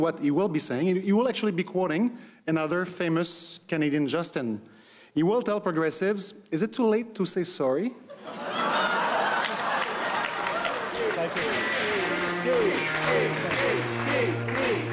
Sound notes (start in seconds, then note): 8.0 crowd laughing; 12.6 chanting